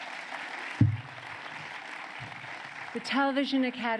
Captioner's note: applause